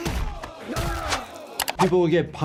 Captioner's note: punches thudding